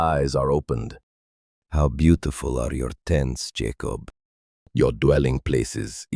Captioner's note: thoughtful